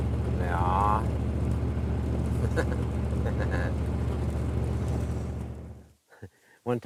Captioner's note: chuckle